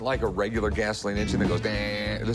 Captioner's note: mimicking engine